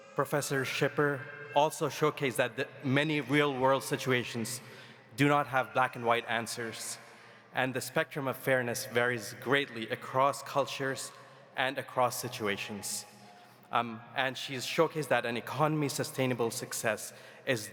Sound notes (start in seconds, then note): none